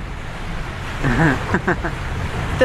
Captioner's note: laughs